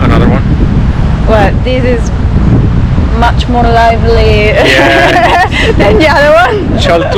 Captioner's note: laughing